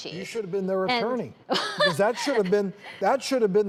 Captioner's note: laughs